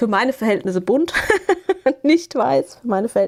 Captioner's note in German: gelächter